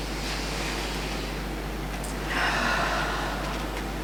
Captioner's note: deep breath